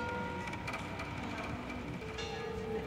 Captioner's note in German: Kirchenglocke